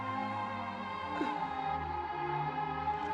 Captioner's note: groans